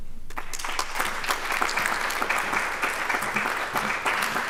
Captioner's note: applause